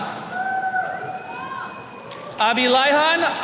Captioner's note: attendees cheering